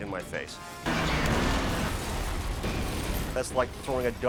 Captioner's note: charges explode; car banging